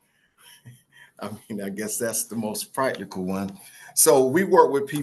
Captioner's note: laughs